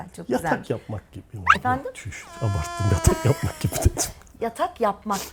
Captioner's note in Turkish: kahkaha